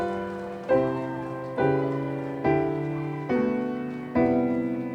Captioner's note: audience applauding; audience cheering